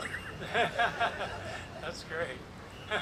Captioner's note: panelists laugh; chuckles